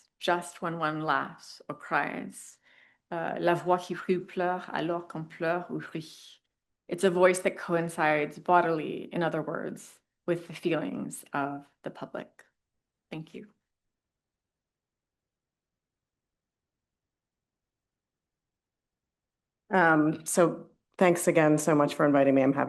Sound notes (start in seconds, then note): 3.6 speaks in French